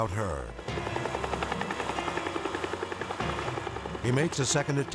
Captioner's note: helicopter whirring